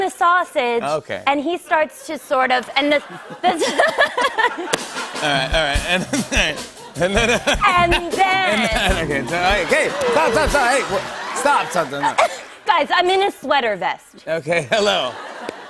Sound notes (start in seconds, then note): 3.4 laughter